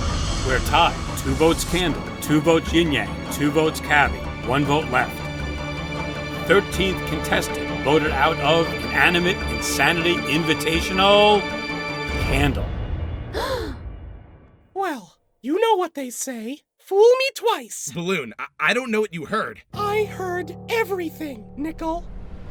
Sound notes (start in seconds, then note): 13.4 gasps